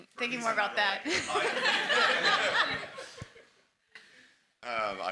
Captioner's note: everyone laughs